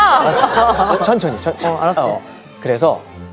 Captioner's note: haha